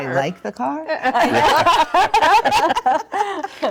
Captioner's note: laughing